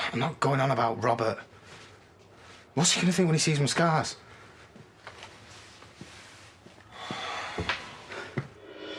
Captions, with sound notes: I'm not going on about Robert! What's he gonna think when he sees my scars? *Aaron sighs*